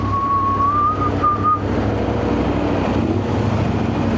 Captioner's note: whistling